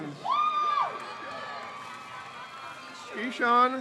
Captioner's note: crowd cheers